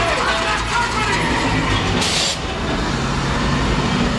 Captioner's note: tires squealing